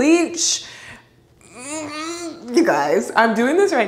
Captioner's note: groans